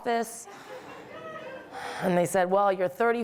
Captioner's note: audience laughing